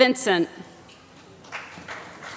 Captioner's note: applause